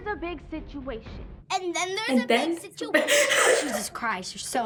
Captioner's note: laughs